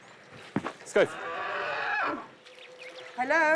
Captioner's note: speaking native language